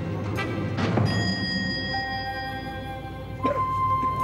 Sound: elevator bell

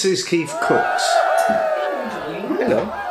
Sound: cheerin

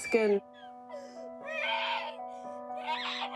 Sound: screams

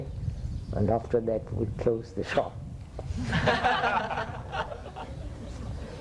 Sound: laughter

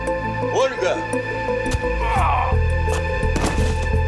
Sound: moans; eerie music

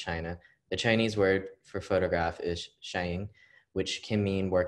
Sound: speaking Chinese

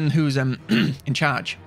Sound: clears throat

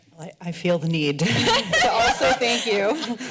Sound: laughing

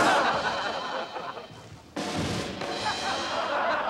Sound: upbeat music; laughter

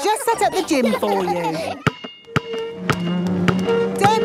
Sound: chair scraping

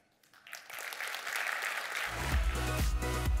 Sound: applause

